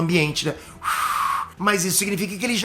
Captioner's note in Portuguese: soprando